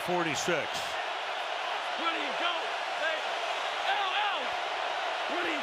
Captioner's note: cheering